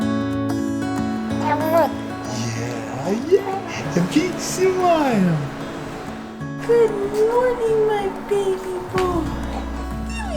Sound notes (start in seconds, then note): 1.5 mumbles; 5.2 baby talking